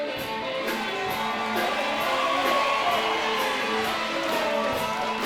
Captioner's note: crowd cheering